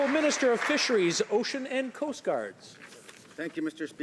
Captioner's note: some Applause